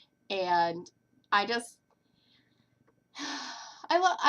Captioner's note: sigh